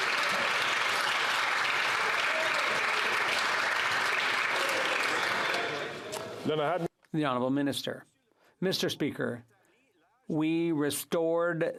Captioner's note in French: applaudissements